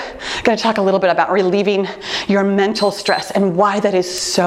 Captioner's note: timer beeps